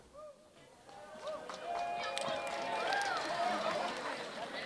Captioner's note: audience cheering